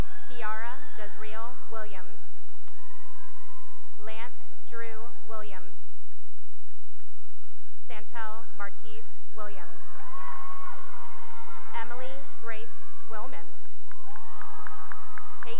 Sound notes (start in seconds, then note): 0.0 cheering; 2.5 cheering and applause; 6.6 applause; 9.9 cheering and applause